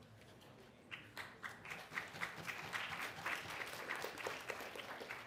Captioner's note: applause